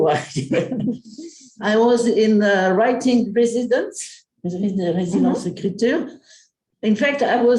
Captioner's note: non-english speech